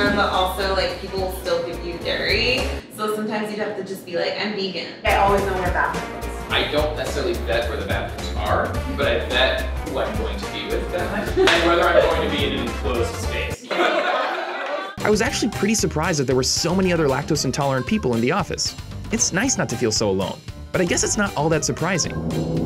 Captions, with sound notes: but also like people will still give you dairy so sometimes you have to just be like "I'm vegan." - I always know where the bathroom is. - I don't necessarily vet where the bathrooms are but I vet who I'm going to be with that night and whether I'm going to be in an enclosed space. (laughter) I was actually pretty surprised that there were so many other lactose intolerant people in the office. It's nice not to feel so alone. But I guess it's not all the surprising.